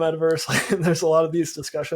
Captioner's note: chuckles